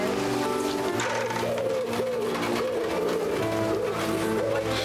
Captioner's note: doves cooing